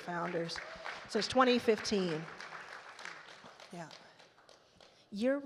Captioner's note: attendees applaud